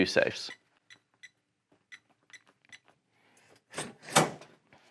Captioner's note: keypad beeps